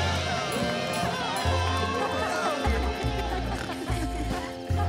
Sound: people laughing

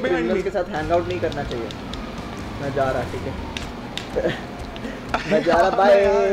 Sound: speaking foreign language

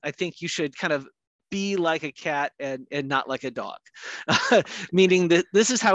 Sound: laughs

